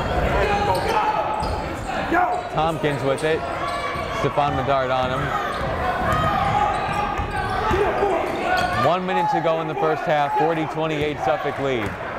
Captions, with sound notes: (yelling) Thompkins with it, Stephon Medard on him. (yelling) One minute to go in the first half, 40, 28 Suffolk lead.